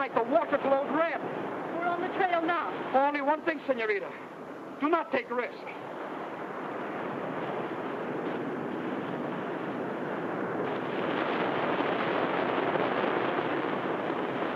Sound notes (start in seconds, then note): 11.2 waves crash